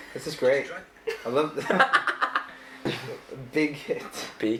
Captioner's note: laughs; laughing